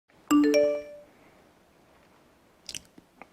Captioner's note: receives notification